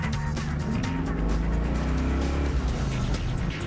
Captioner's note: engine revving